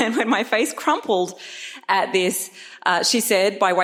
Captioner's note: laughs